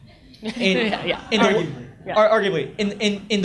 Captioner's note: audience laughs